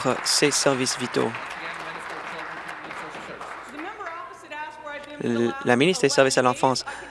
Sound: applause

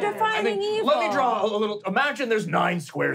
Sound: trilling

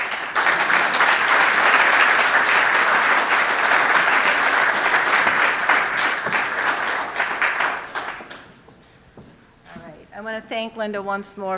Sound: applause

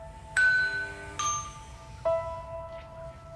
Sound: doorbell ringing

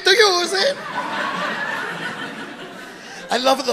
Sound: audience laughing

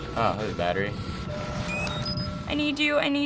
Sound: camera powers up

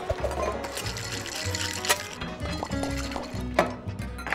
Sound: upbeat music; ice cubes rattling

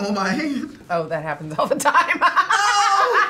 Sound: laughs

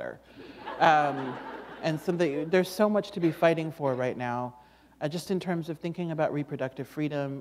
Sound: laughter

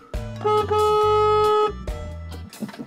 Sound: horn beep

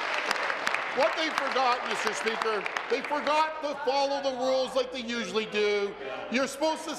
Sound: some Applause

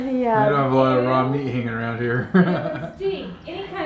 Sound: laughs

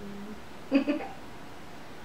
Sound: humming sounds; buzzing sounds; laughter

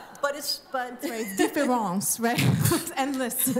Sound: french accent

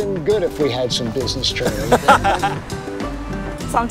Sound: people laughing

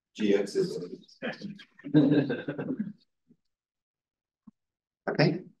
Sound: audio distorting

